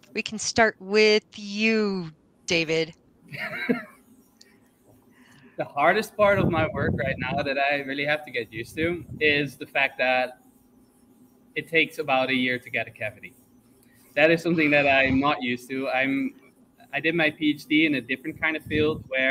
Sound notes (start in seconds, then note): 3.3 chuckles